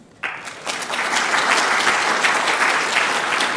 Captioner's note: crowd applauds